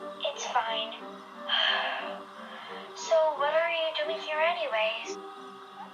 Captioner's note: breathes calmly